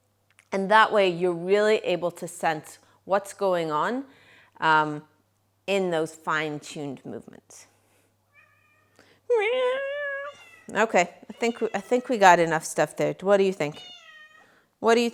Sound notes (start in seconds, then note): 7.9 cat meows